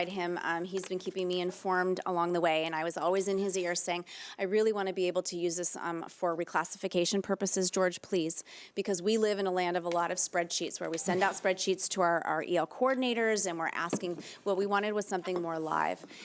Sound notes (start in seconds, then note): none